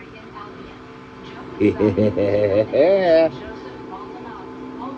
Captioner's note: laughs